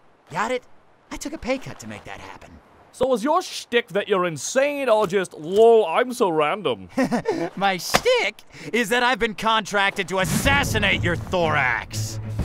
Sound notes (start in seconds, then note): 6.8 chuckling